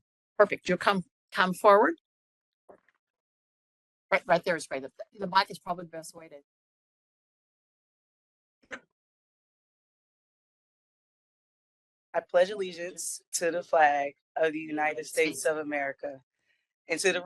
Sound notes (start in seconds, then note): 9.1 group speaking together